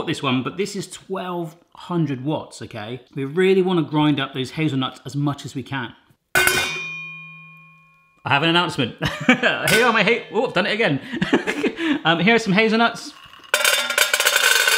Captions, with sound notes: this one, but this is 1,200 watts, okay? We really wanna grind up those hazelnuts as much as we can. (metal clangs) I have an announcement (laughs). (metal clangs) Here are, whoop done it again. Here are some hazelnuts.